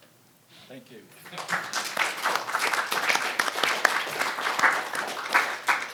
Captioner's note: audience applauding